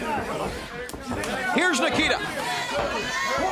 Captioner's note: crowd chatter